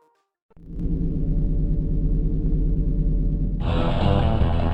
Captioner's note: humming sound